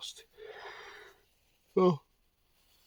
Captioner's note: yawning